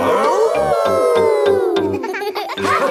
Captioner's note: howling; all howling